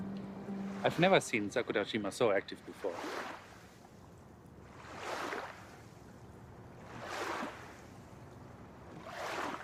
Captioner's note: waves splashing on beach